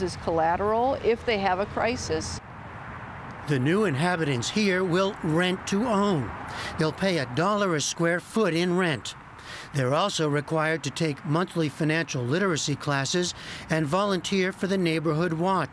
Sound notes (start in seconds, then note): 2.7 voice-over